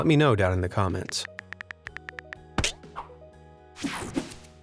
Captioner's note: calm music; fingers tapping; image whooshing